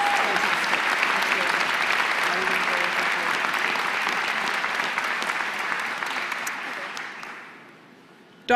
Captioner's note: applause